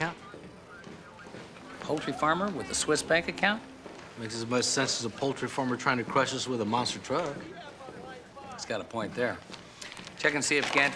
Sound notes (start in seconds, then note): none